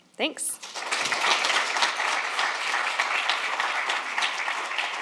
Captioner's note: audience applauds